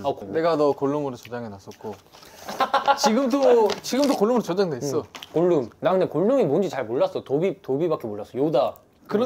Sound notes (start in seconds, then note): 2.4 loud laughter